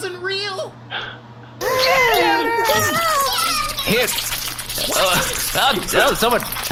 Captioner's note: gasping